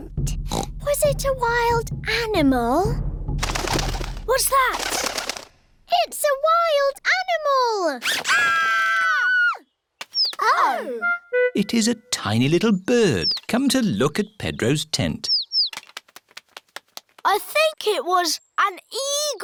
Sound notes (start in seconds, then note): 3.4 fluttering; 8.2 all screaming; 14.9 tweeting